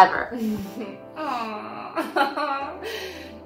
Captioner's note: laughs